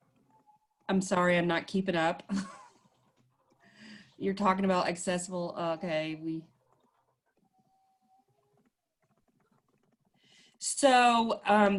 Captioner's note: laughs